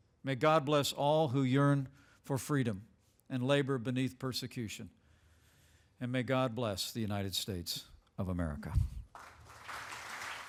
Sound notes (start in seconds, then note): 9.0 applause